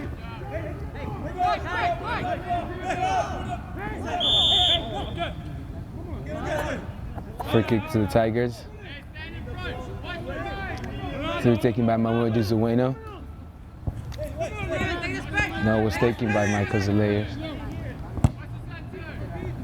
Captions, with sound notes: (whistle) Free kick to the Tigers. To be taken by Momodou Sawaneh. No it was taken by Michael Zelaya.